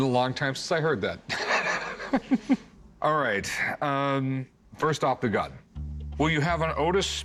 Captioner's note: laughs